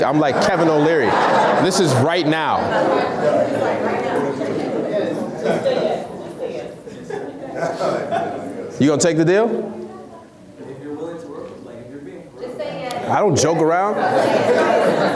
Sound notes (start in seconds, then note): 2.9 laughs